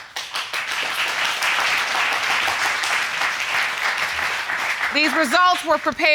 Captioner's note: audience applauding